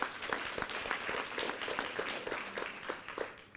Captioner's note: applause